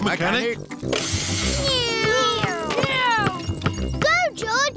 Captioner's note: whirring